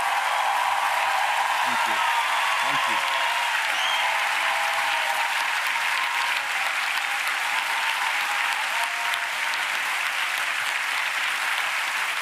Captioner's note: applause